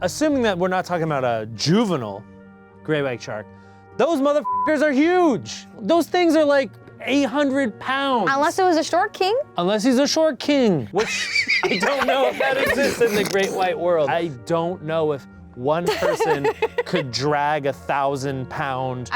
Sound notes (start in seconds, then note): 4.4 beep